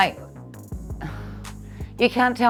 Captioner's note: sighing